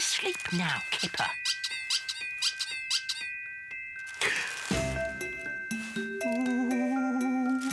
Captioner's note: squeak, squeak, squeak